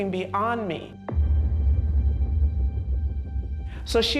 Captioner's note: loud bang